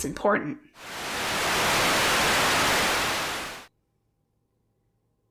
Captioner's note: static